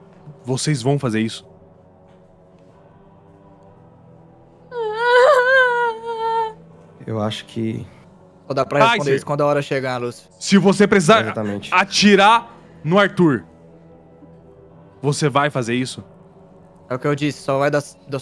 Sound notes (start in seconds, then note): 4.7 cries